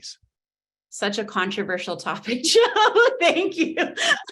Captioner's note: laughs